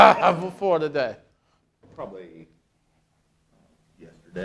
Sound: laughing

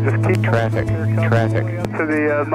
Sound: electronic Voice

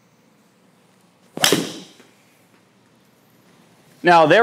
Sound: golf ball smacking

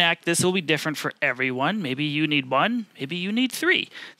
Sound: none

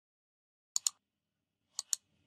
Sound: computer mouse clicks

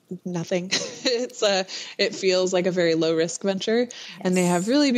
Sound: laughs

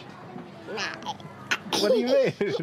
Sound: laughs

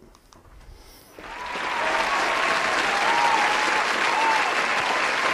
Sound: crowd cheers

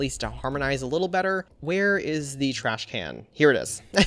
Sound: chuckles

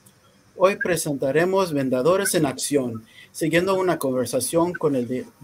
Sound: speaking in foreign language

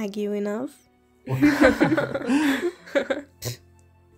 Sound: laughter

